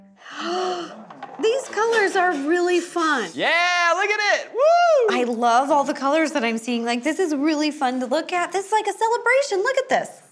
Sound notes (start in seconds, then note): 0.2 gasping; 3.4 whooping